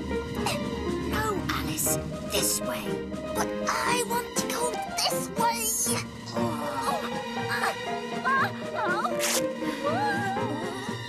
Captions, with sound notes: No, Alice, this way! ( Straining ) But I want to go this way! ( Rippp! )